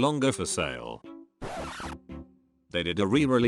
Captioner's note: record scratch